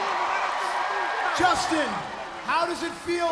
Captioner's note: crowd cheering